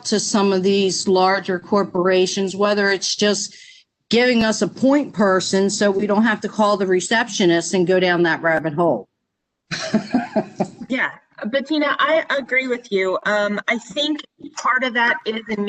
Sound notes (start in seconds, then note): 9.7 laughter